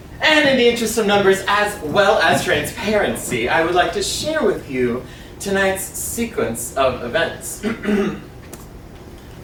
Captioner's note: clears throat